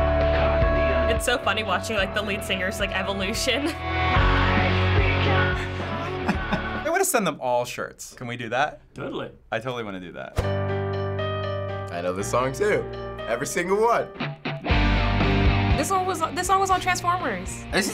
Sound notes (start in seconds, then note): 5.4 chuckles; 10.5 harrowing music